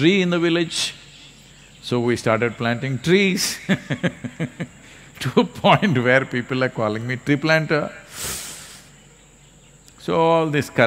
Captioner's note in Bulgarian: Смее се